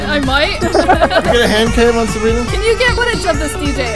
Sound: laughs

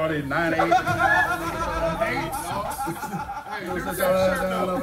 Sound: laugh

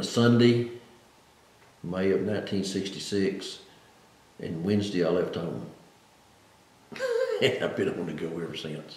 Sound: laughs

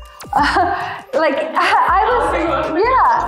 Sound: both laughing

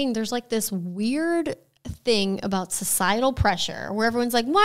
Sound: none

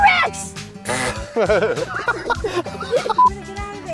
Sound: laughs

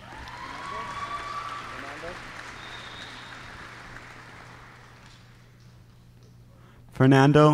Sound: applause

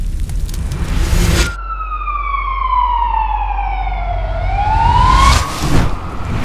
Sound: police sirens

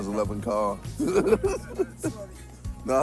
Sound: laughing

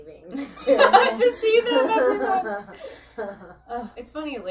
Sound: laughing

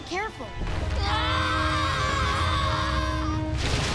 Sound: screaming

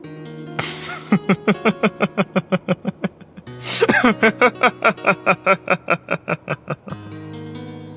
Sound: laughs

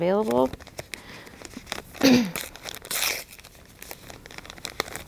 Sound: packaging ripping

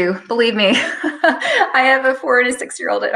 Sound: speaker giggles

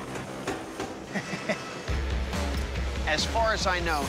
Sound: chuckles

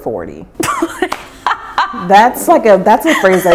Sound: laughing

